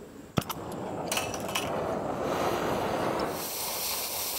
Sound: fire swooshing

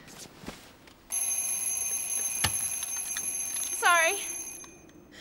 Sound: alarm rings

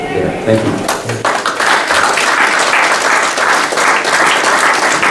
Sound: applauding

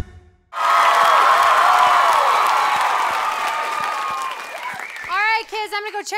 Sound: cheering

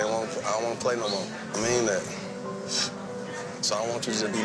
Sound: sniffles

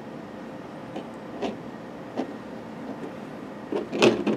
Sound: uncomforting rubbing noise

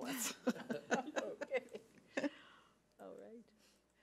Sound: laughs

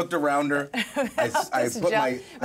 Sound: speaker laughs

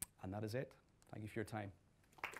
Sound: applause

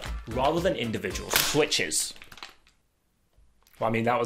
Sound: keyboard snapping

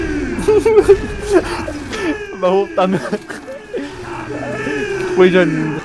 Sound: laughing

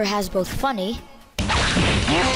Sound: power-thump; repetitive punching

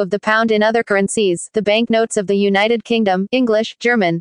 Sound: German

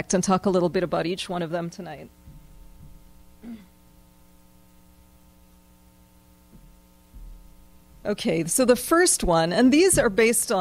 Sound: pause

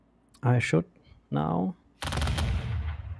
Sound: volley of booming sounds

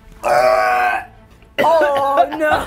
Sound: gagging

